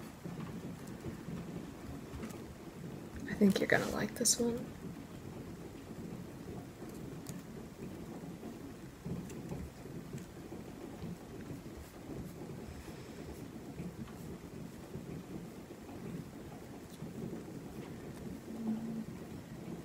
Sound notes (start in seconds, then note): 4.8 mostly trying to spell "wanderers", silence and typing sounds